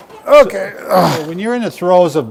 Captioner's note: grunts